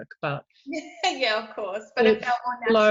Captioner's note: laughs